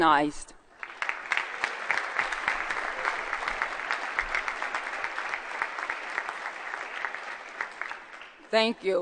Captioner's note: applause